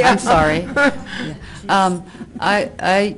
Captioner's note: slight laughter from spokesperson